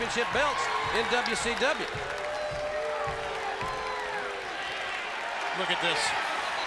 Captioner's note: crowd cheering